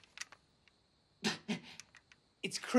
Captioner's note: gasps